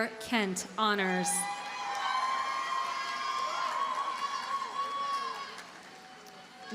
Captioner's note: audience cheers and applauds